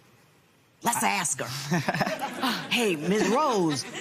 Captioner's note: laughs